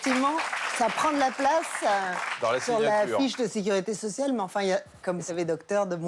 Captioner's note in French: applaudissements